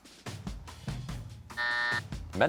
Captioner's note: buzzer